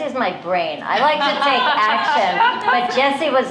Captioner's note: laughter